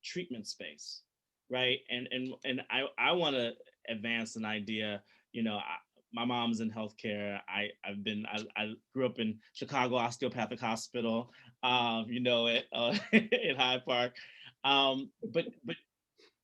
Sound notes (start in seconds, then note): 12.8 chuckling